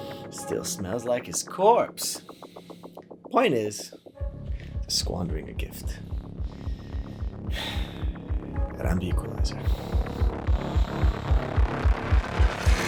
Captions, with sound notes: Still smells like his corpse. Point is, they’re squandering a gift. (sigh) And I am the equalizer. (music intensifies)